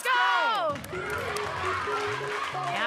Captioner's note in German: Anfeuernde Rufe